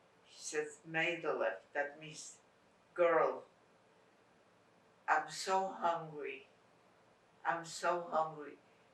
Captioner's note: yiddish